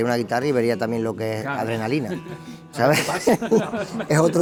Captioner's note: laughs